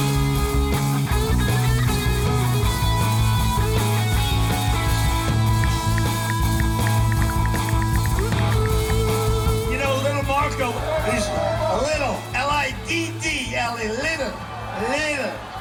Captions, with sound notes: (rock music) (ticking) You know, little Marco. He's liddle, L I D D L E, liddle, liddle, liddle Marco.